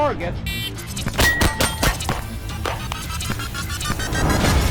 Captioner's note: gun firing; dramatic music